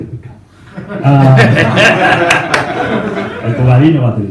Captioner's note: laughs